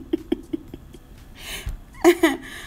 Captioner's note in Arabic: يضحك